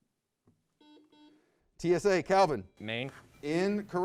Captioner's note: buzzer beeps